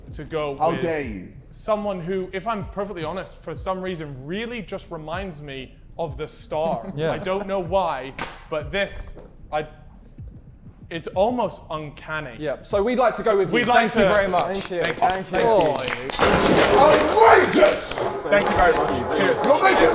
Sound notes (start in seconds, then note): 6.6 Vikram chuckling; 13.6 Sidemen applauding